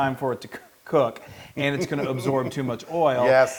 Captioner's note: laugh